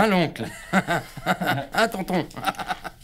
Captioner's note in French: Rires